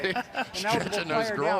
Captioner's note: laughs